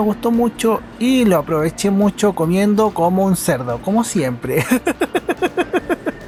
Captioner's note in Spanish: <como siempre risas